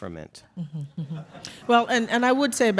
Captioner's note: audience chuckles